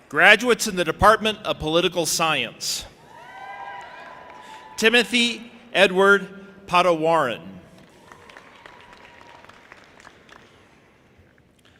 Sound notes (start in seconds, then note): 7.8 audience applauding